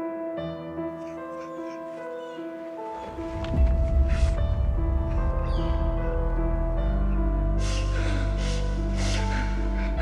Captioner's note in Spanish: Sollozos